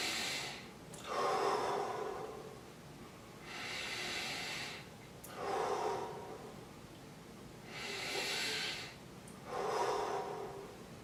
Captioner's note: deep breathing